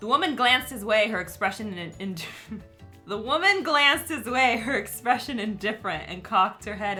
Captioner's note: chuckles